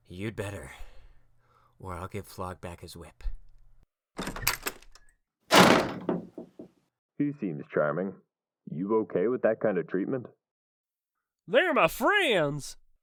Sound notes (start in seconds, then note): 5.5 door slams closed; 5.5 door opens